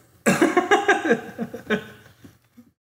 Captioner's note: laughs